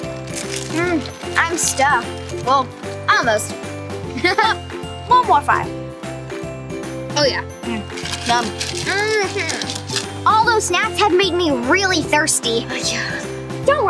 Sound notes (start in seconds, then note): 0.1 upbeat playful music; 4.2 laughs; 6.1 upbeat playful music